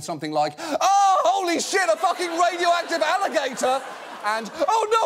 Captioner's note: screams